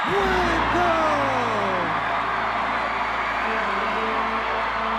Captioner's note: audience cheers; upbeat music